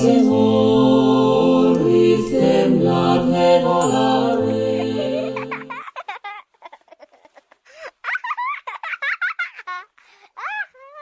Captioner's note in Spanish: Risas